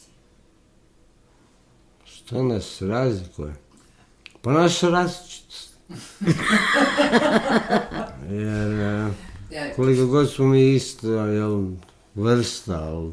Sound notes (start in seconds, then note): 5.9 laughter